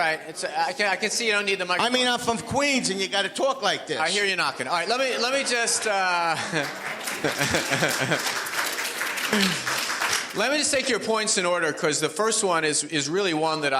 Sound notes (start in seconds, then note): 4.8 audience laughs; 8.1 audience applauds